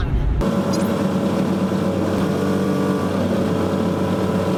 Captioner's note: rumbling noise